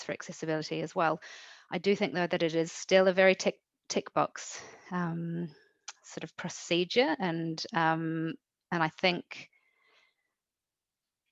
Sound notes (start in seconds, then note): none